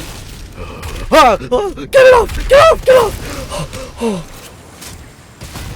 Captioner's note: relieved noises